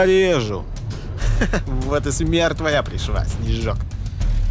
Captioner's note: laughing